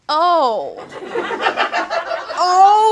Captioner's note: audience laughs